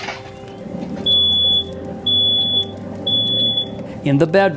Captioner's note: fire alarm going off